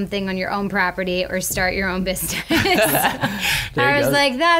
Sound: laughs

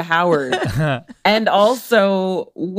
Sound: laughs

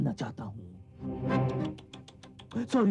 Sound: clicks tongue

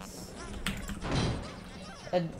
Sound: aggrieved Oatmeal noises

